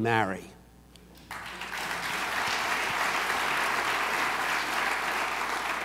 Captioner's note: audience applauds